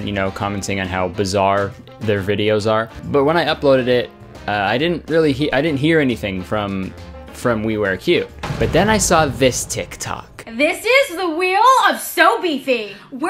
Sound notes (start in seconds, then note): 8.3 metal slamming